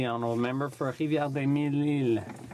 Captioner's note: speaking in french